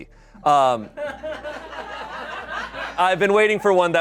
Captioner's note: people laugh